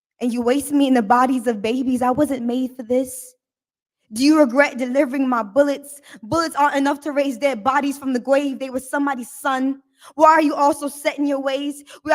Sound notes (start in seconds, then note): none